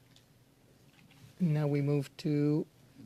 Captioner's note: speaking French